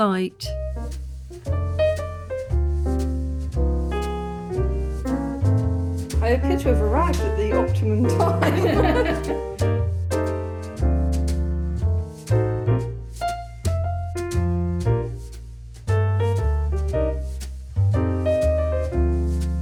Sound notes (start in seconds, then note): 1.4 chill jazz music; 8.4 laughter; 10.7 chill jazz music